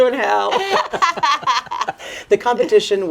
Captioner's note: both laughing